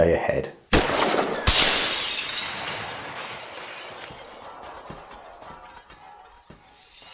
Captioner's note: gun firing; glass shattering